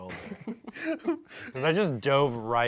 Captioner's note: laugh